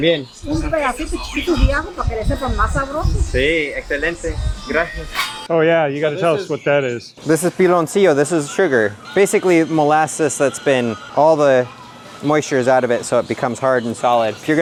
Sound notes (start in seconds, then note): 0.0 and shopper speaking Spanish; 1.4 and shopper speaking Spanish